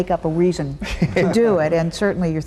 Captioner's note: laughing